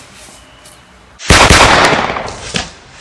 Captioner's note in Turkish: yine silah efekti